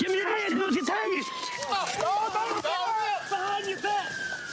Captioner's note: yells